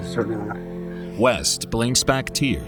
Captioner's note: sniffles